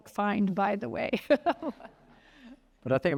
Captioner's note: laughs